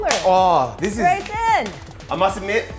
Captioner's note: claps